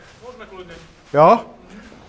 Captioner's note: chuckles